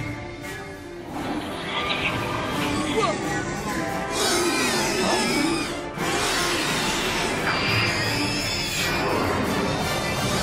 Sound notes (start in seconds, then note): 4.0 squealing; 6.3 roaring